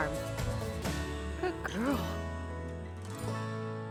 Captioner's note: affectionately to cow